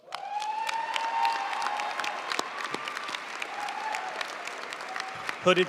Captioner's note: audience cheering and applauding